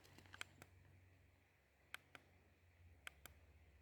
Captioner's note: button clicking